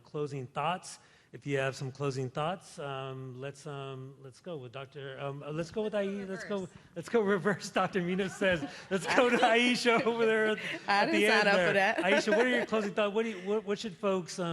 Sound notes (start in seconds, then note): 8.1 laughter; 10.7 laughs